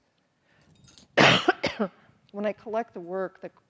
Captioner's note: coughs